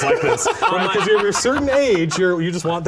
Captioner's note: laughter